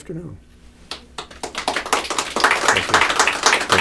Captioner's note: applause